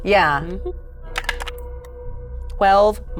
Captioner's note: hums